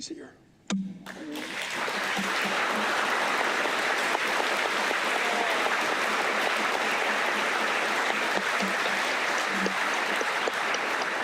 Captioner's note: applause